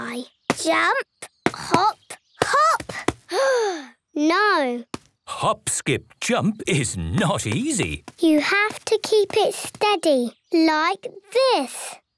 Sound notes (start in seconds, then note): 3.3 sigh